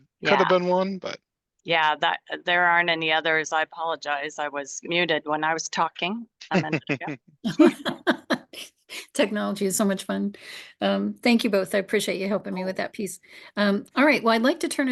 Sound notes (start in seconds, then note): 6.5 giggles